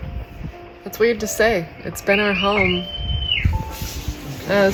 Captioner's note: whistling in background